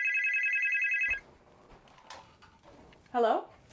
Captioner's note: phone Ringing